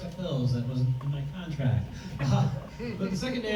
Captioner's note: laughs